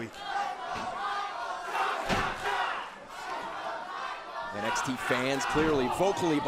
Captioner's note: crowd cheering